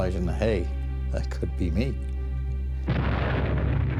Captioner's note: explosion